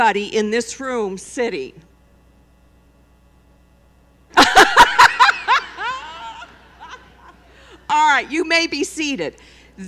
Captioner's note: laughter